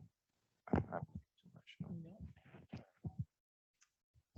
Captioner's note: microphone crackling